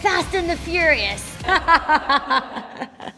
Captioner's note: laughing